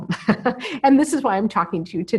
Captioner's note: laughs